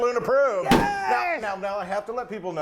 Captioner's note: stamp stamping